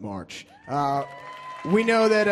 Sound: audience cheers

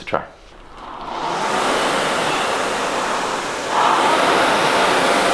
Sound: rowing machine runs

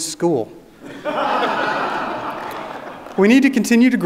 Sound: audience laughing

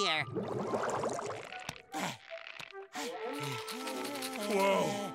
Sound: panting

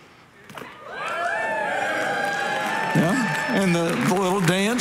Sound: congregation cheering

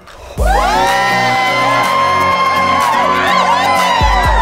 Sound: audience cheers

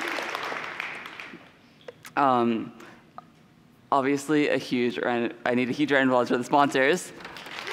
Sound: applause

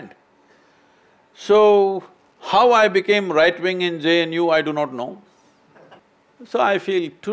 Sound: few laugh

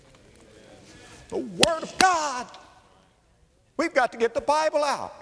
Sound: slap

